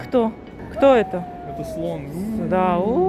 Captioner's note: ouuuu